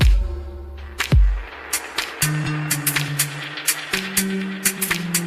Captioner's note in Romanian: Aplauze